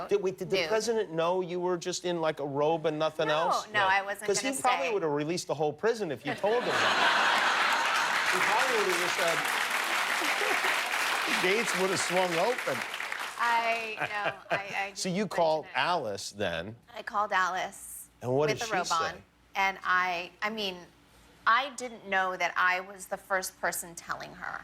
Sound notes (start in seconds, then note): 12.3 laughter; 14.6 applause